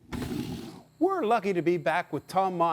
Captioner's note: wood stacking sound